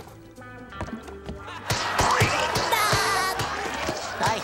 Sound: smashing, laughing

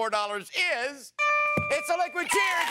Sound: dings

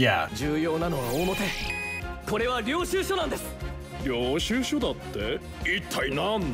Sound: characters conversing in Japanese

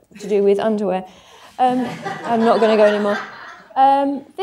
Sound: laughter

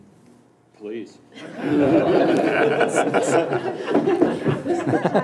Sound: audience laughs

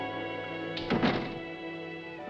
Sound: door closes

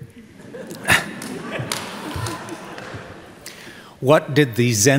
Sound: crowd giggles

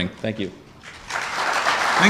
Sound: audience applause

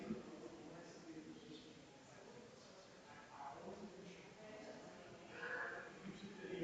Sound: people chattering distantly continues

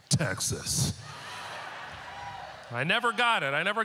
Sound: audience laughter

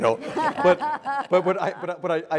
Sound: laugh

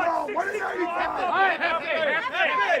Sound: more yelling

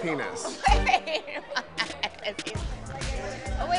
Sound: laughing

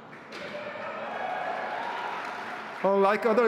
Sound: audience cheering

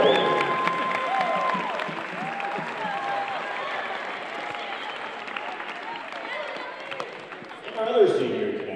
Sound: applause continues

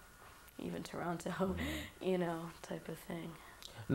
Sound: laughter

